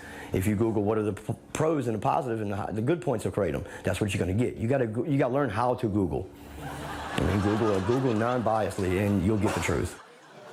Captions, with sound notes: If you Google, "What are the pros and the positives and the good points of kratom?" that's what you're gonna get. You gotta-- You gotta learn how to Google. (AUDIENCE LAUGHS) I mean Google non-biasedly and you'll get the truth.